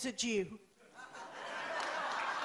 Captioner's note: applause